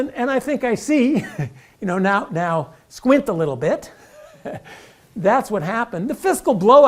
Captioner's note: laugh